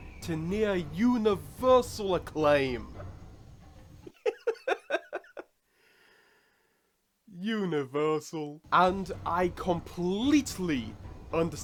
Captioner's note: laughs